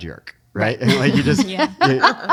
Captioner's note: laughing